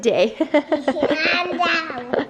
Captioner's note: laughs